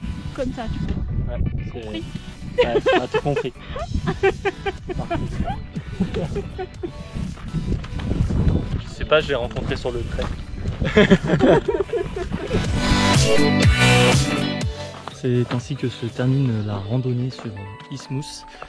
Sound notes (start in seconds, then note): 2.6 laugh